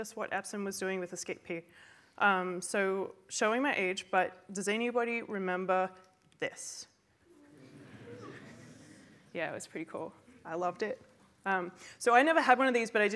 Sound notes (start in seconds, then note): 7.3 mumbles from the crowd